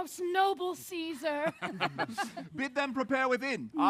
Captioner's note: laughter